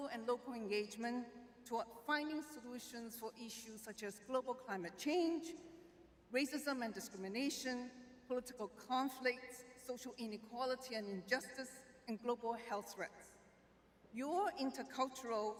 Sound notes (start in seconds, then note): none